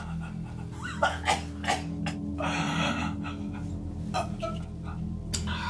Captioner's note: Saul, caughing and gasping for breath